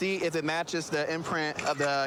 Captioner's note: camera app clicks